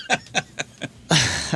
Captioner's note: laughing